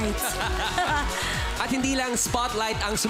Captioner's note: chuckles